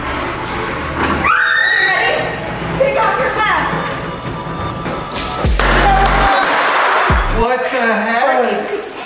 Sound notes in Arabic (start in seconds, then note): 5.5 الجميع يهتف